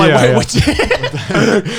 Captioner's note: laughs